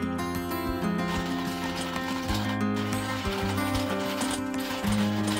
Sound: coffee grinding

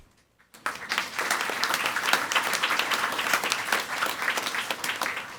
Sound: audience applauding

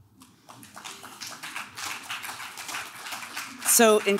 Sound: clapping

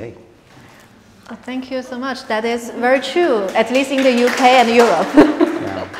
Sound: applause

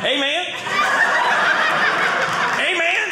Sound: audience laughing

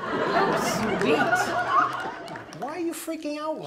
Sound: audience laughs

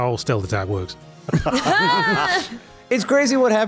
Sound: laughs

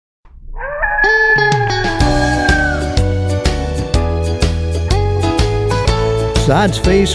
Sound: coyote Howls

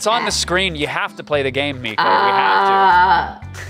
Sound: groaning; scream-groaning

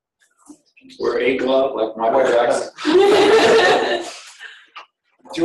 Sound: laughing

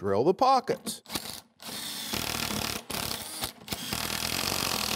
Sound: drill buzzing

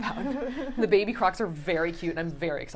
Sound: chuckling

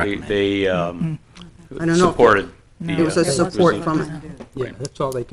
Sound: trustees talking

